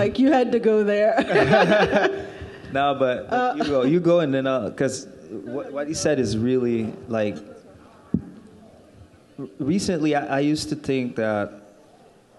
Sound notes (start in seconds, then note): 1.2 laughing